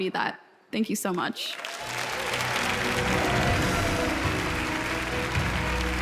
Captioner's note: audience applauds; wondrous music